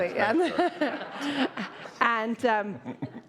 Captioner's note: all laughing